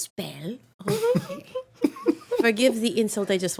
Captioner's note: laughing